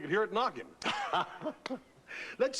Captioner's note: laughing